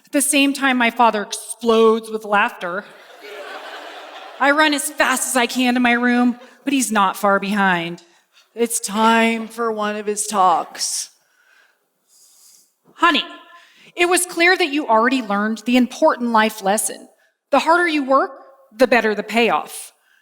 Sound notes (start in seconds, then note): 2.9 laughter